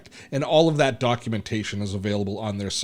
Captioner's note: none